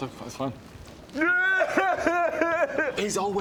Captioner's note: useless sobs